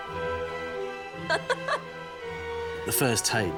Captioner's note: laughs